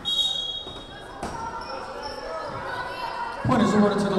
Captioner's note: whistle blowing